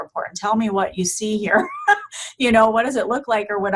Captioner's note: laughing